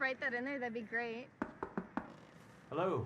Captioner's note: knocking